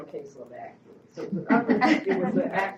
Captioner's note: laughs